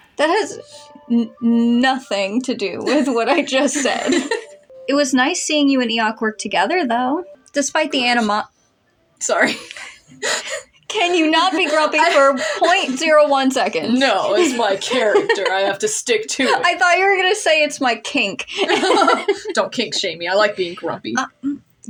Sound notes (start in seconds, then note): 2.7 laugh; 11.0 laughing; 14.1 laugh; 18.4 laugh; 18.5 chortle